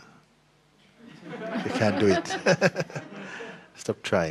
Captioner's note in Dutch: gelach